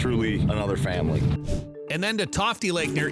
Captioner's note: sfx whoosh